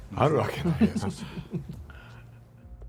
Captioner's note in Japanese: 笑い